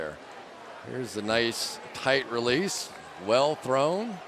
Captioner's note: players shouting